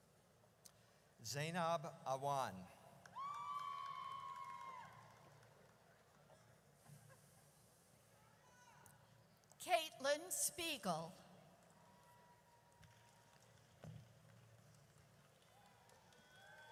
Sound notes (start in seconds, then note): 3.1 audience cheers; 11.1 audience cheers